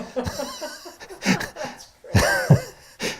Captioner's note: laughter